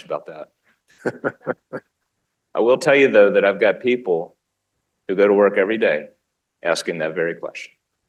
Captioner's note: laughter